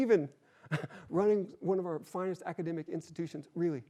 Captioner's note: chuckles